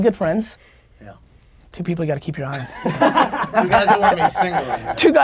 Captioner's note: laughs